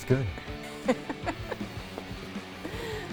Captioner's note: laughing